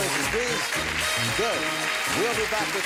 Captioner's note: applause